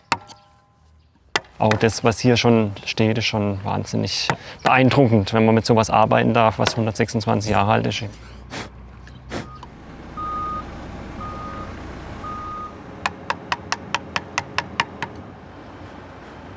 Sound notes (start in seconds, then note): 8.1 blowing; 10.1 beeping; 12.7 quick, short hammer blows